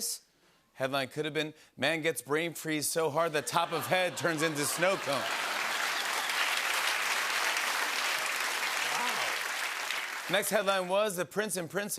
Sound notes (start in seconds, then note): 4.2 applause